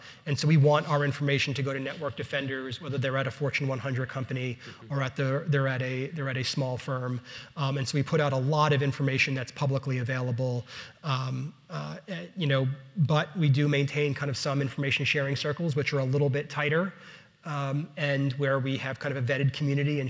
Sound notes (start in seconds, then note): none